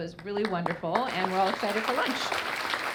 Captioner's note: audience clapping